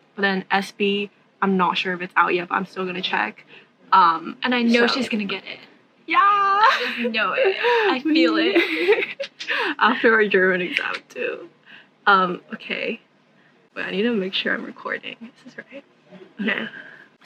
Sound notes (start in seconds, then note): 8.8 nervous giggling